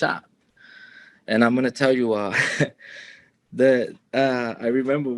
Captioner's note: chuckles